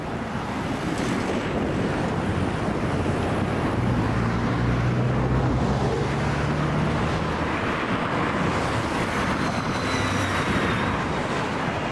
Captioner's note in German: Verkehrslärm